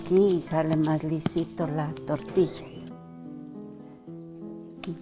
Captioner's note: speaking in foreign language